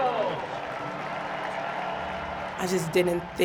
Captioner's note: crowd cheers